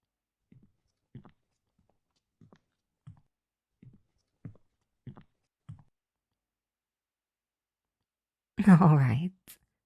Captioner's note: Kalani's footsteps as she comes back to your room